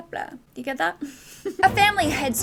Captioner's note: giggles